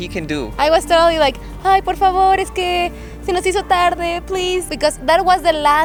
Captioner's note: begging